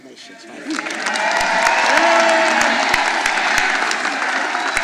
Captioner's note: all applauding